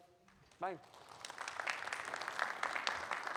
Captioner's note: audience applauding